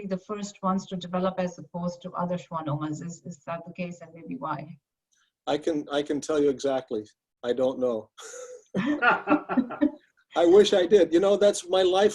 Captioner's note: laughing